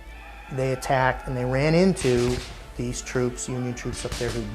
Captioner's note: guns firing